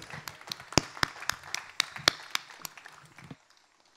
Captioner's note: applause